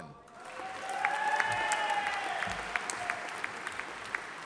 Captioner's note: audience applauding